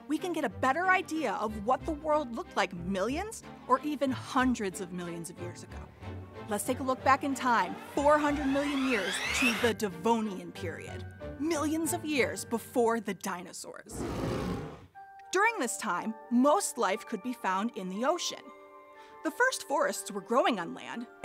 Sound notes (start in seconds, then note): 13.9 animal roars